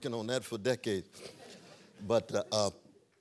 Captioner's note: laughter